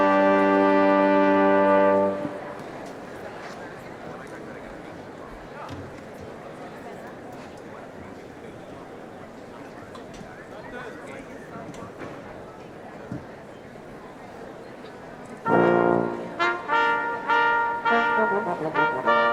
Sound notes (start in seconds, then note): 2.8 people murmuring; 15.4 solemn instrumental music